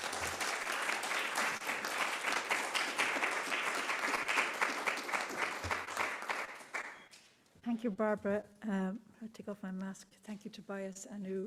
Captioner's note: applause